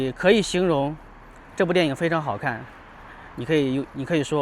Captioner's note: 英语; 英语